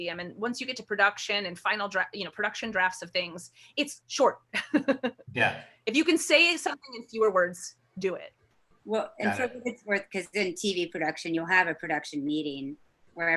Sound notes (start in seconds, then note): 5.3 laughs